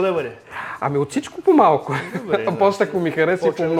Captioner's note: laughs